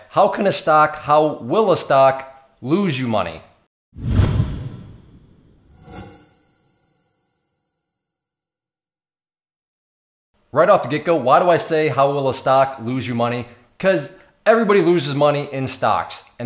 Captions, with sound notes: How can a stock, how will a stock lose you money? (intensifying swooshes) Right off the get-go, why would I say how will a stock lose you money? 'Cause everybody loses money in stocks,